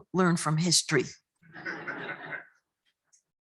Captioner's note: laughter